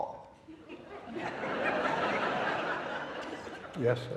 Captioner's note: audience laughing